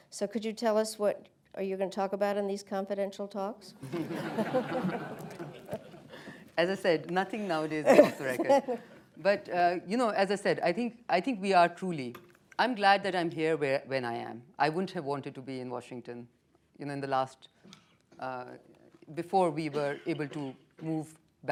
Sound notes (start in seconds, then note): 3.8 laughter; 7.4 laughs